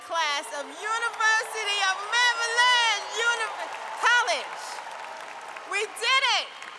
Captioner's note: applause